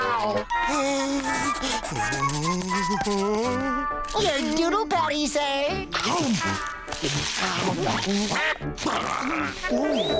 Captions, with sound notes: [humming] Your doodle patty sir.